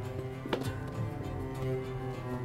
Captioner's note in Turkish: El vurma sesi